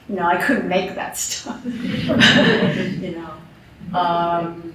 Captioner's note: laughter